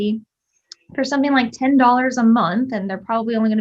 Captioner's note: lips smacking